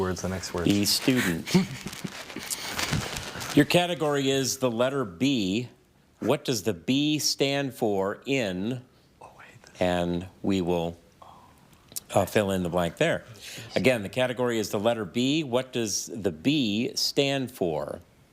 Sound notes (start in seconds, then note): 1.2 team chuckling